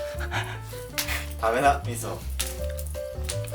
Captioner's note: laughs